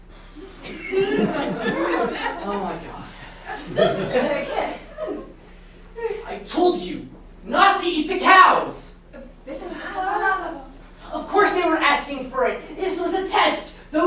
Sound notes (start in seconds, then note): 0.5 laughter; 4.7 speaking grammelot; 9.4 sailors speaking grammelot